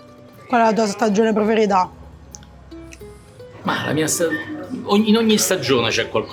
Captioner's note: both speaking in foreign language